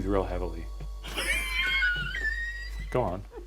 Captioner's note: laughing